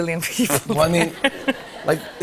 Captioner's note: laughter